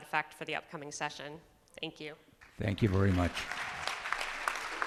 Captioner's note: applause